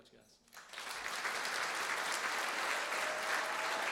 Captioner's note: applause